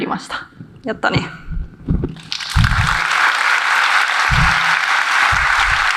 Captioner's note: applause